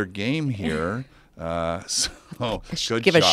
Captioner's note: laugh